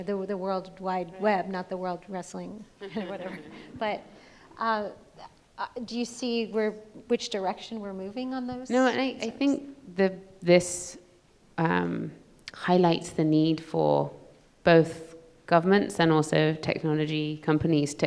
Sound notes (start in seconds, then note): 2.7 laughs; 2.8 audience laughs